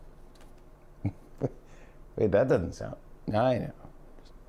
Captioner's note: chuckles